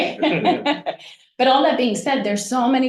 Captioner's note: laughs